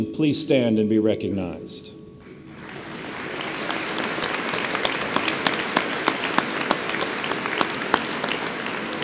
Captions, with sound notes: please stand and be recognized. (audience applauds)